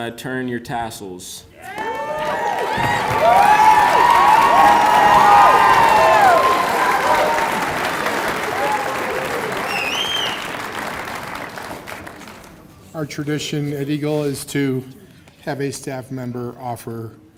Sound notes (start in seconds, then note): 0.6 applause; 6.3 cheers and applause